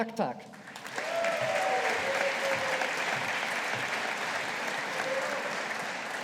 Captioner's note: audience applauding